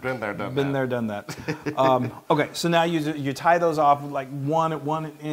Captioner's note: laugh